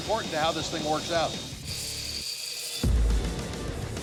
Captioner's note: machine grinding